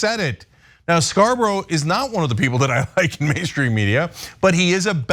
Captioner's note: laugh